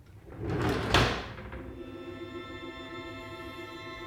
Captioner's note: drawer shuts